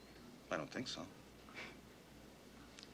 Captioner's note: exhales sharply